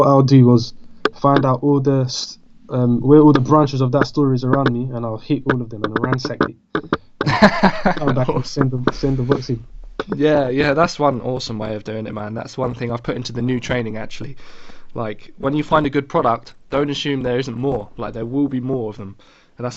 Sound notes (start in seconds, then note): 7.2 laughs